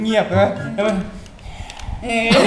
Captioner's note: breathe out